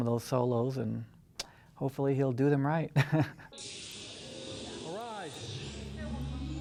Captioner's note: chuckling